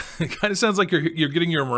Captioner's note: laughs